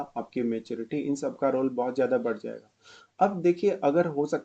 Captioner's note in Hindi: नाक से की जाने वाली आवाज़